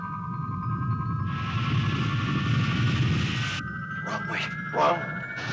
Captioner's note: crystal warbling; geyser rumbling